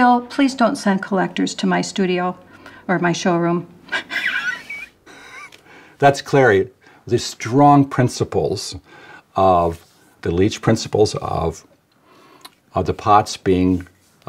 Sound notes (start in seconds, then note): 3.9 laughs